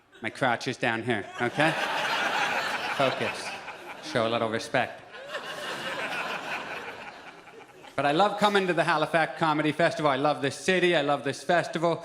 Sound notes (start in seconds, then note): 4.9 audience laughs